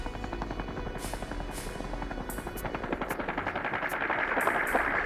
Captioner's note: helicopter buzzing